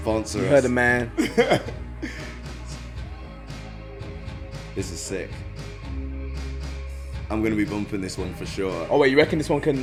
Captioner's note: laughs